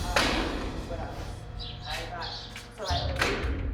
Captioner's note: inmates chattering